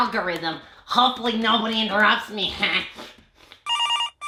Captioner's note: laughs; phone rings